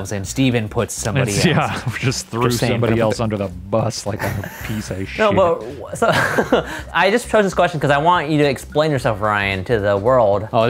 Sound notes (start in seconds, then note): 5.2 laughs